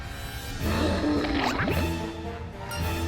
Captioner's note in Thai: เสียงคำราม